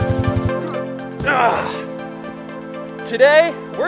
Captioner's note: man grunts